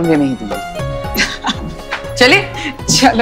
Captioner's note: Poonam laughs